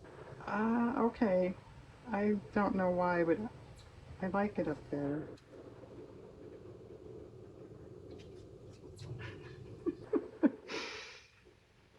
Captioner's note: laughs